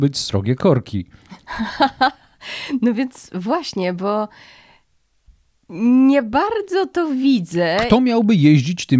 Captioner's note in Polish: śmiech